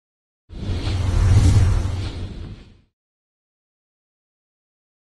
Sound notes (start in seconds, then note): 0.5 screen whooshes